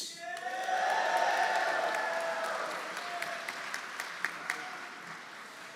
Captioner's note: audience cheering; audience applauding